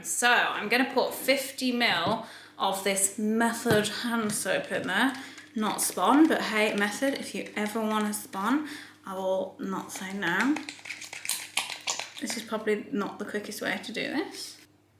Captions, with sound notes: So I'm gonna put 50 mil of this Method hand soap in there. Not spon, but hey, Method, if you ever wanna spon, I will not say no. (soap squirting) This is probably not the quickest way to do this.